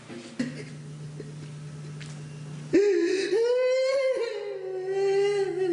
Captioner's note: wailing